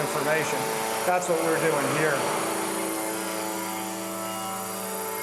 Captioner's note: motors buzzing